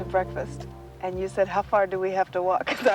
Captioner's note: laughs